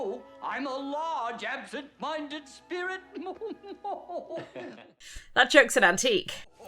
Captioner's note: awkward laugh